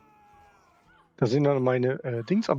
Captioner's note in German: schreien; stöhnen